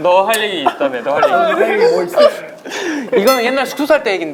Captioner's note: crying